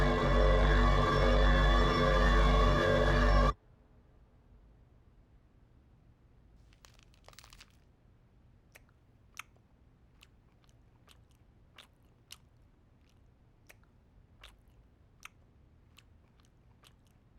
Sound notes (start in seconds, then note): 8.4 chewing